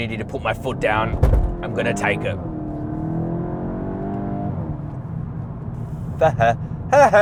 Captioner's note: car engine accelerating